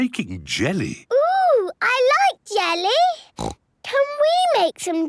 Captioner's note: snorts